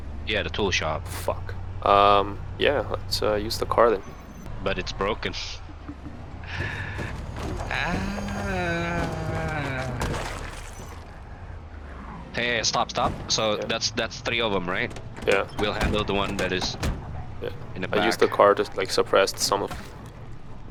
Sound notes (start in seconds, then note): 7.6 distressed noises